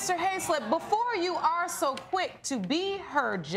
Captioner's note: audience groaning